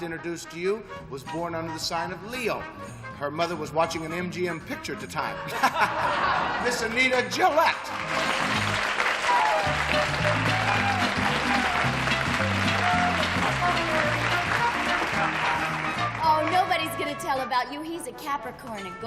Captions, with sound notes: And the lady I'm about to introduce to you was born under the sign of Leo. Her mother was watching an MGM picture at the time. [chuckles] Miss Anita Gillette. [applause] - Oh, nobody's going to tell about you.